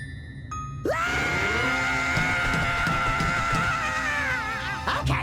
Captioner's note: daxter screams